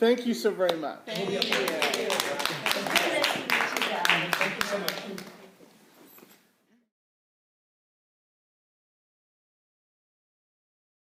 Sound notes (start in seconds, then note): 1.1 applause